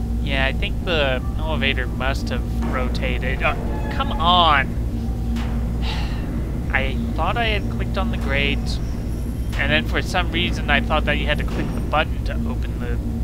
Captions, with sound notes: Yeah, I think the elevator must have rotated- oh, come on! *sigh* I thought I had clicked on the grate. And then for some reason I thought that you had to click the button to open the